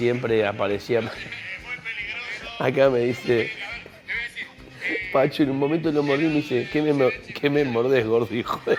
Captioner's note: laughs